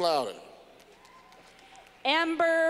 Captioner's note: clapping